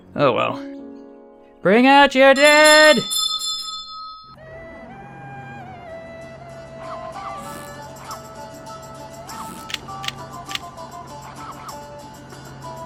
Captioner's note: rings bell